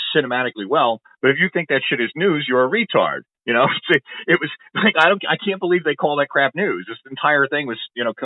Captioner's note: laughs